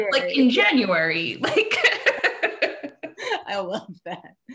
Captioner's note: laughs